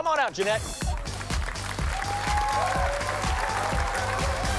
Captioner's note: applause and cheering